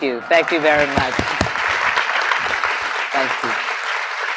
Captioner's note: applause